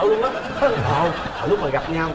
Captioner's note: laughing